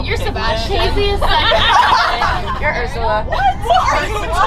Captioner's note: laughing